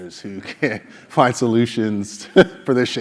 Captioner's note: laugh